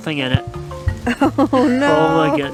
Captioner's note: laughs